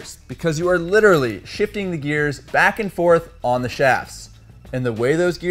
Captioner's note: shifting